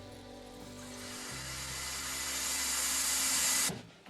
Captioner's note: hissing